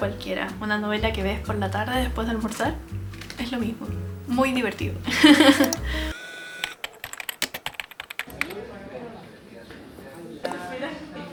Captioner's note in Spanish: risas